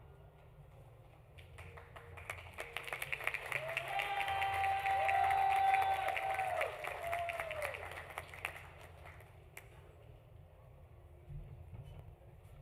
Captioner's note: applause